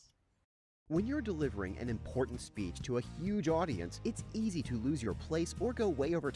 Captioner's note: voiceover